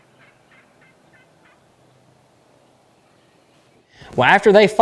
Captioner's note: turkey yelps